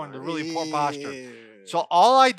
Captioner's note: groans